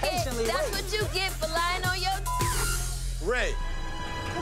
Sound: beep

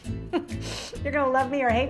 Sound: laughs

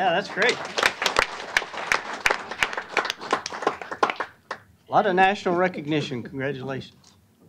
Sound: applause

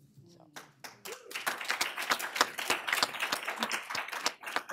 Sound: applause

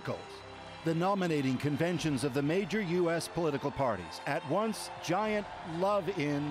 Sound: cheering and Applause

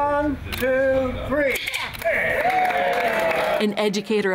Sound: applause

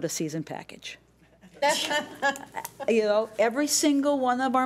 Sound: laughing

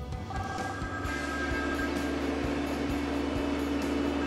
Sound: phone ringing

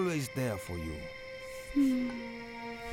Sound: sighing softly

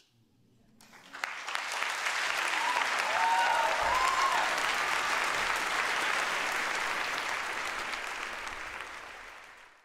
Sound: applause and cheering

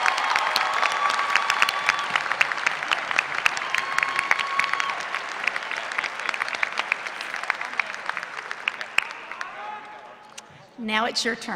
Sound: applause

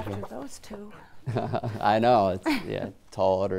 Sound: chuckles

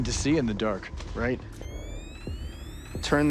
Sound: gadget whirring

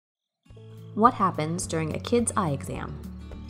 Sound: voiceover

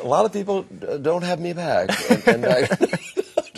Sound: both laughing

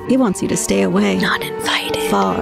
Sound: whispers

